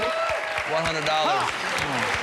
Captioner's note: cheers and applause